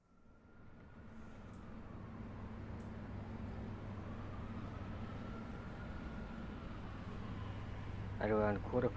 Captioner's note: city ambience